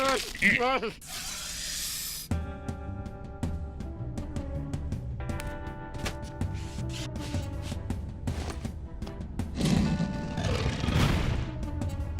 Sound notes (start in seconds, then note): 2.2 suspenseful music; 9.2 sliding; 10.6 slam